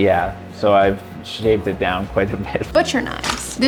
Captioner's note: laughs